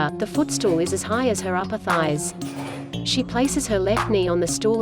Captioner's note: chair creaking